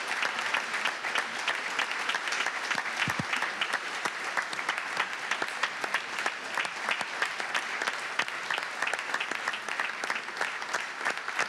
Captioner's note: applause